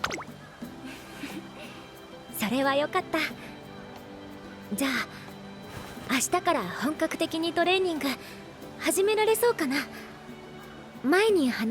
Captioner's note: chuckles